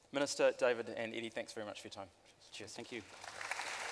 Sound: applause

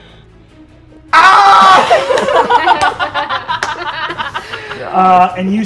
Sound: players laughing

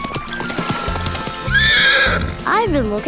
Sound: neighing

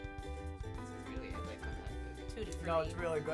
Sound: speaks quietly

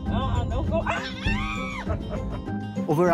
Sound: screams; laughs

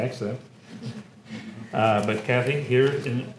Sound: laugh

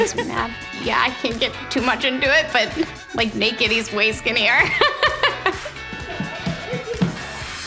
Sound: laughing

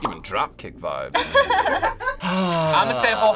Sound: both laugh

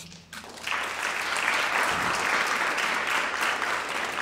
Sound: audience applauds

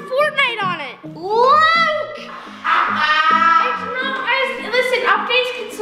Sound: laughing

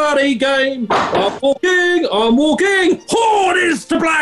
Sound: watson claps in time

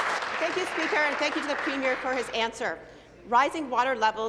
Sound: applause

